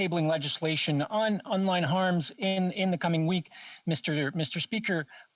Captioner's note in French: voix de l'interprète